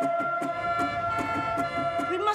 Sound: sirens blaring

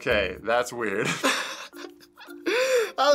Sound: snickering

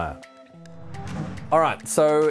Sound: swoosh

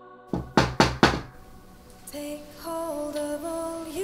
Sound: knock

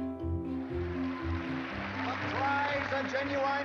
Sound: bright music; dancers applauding

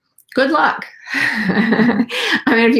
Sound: laughing

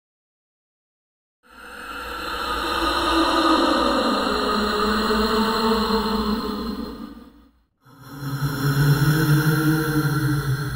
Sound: ghost breathing

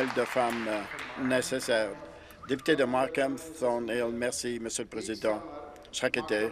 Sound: some applause

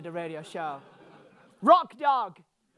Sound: audience laughing

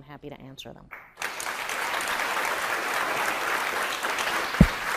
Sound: audience applauding

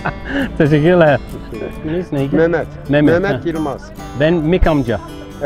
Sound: laughs; Speaking in Turkish

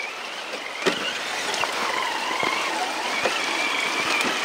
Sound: tires squealing

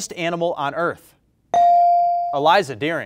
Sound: bell rings

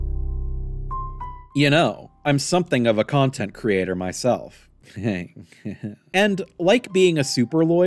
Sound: smarmy, smug laughter

